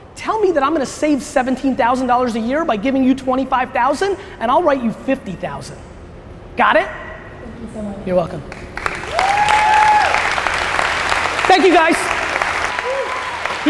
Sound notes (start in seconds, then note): 8.5 applause